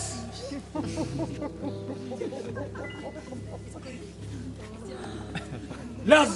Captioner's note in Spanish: Risas y gemidos